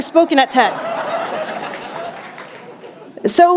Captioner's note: laughter